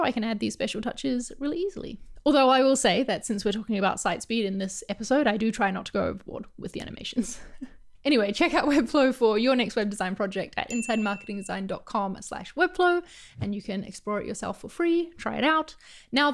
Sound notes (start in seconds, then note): 7.2 chuckle; 10.7 ding